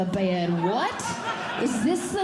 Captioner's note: audience Laughing